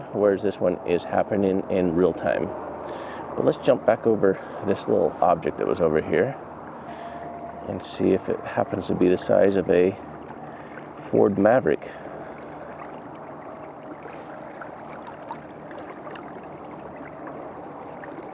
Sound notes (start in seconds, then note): 12.6 water gently bubbling